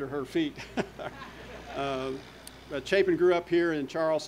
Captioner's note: audience laughter